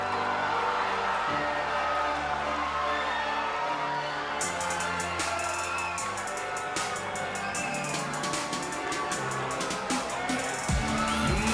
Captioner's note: cheers and applause